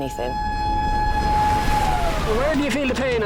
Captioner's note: alarm blasts; water splashes